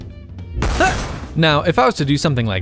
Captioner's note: blam